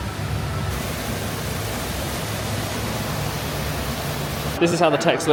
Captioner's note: water gushing